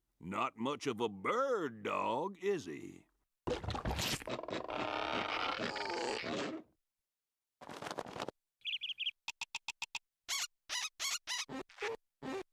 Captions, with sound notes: NOT MUCH OF A BIRD DOG, IS HE? [creaking] [grunting] [chirping] [squeaking]